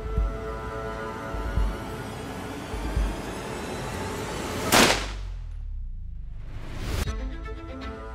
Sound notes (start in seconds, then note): 4.7 gunshot